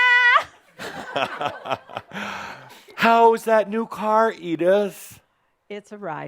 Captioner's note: chuckling